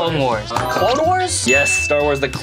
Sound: bell dings

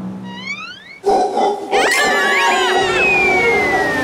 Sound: screaming

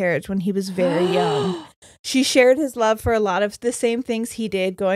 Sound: gasps

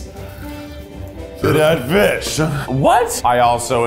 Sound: burps

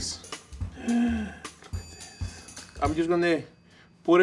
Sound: gasps

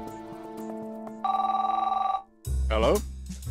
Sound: phone rings

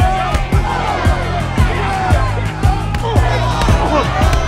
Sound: crowd cheers; men groan

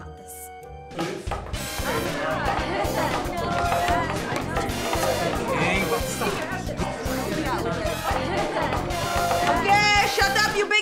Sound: class chattering

